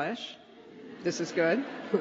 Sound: laughter

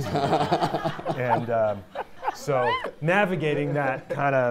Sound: audience laughing

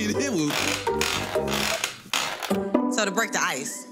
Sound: bed creaking

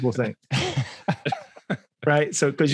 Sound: all chuckling

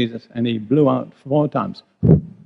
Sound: blows

